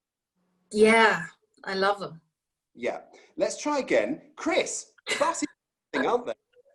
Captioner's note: laughs